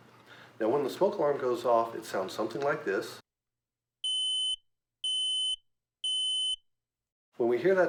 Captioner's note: smoke alarm beeping 3 times